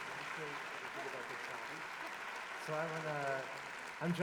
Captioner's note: applause